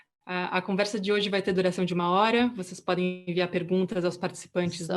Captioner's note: speaking in foreign language